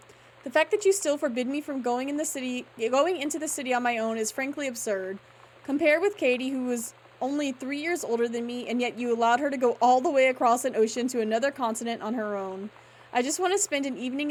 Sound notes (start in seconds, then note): none